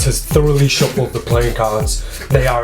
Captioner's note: cards slapping